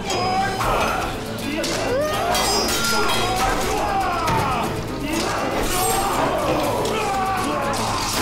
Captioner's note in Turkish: Dövüş sesleri; Kılıç sesleri